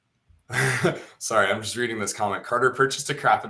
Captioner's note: chuckles